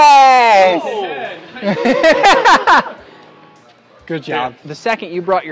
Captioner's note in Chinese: 笑声